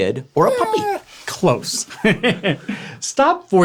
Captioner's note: laughs